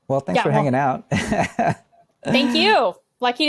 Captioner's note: person laughs